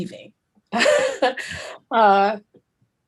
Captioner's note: chuckles